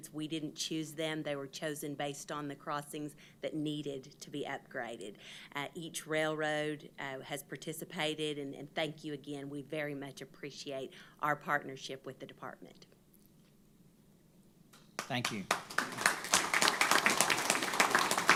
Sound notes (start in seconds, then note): 13.4 applause